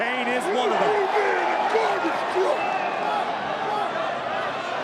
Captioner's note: Strowman yelling